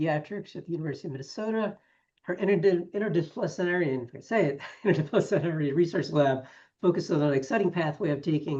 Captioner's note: laughs